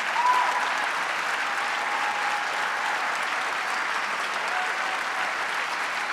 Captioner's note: audience continues cheering